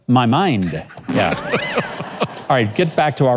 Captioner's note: laughs